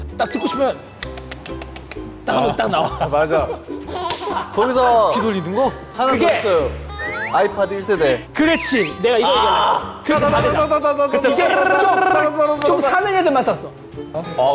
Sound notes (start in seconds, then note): 2.2 laughing in agreement